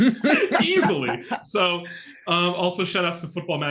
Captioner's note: laughing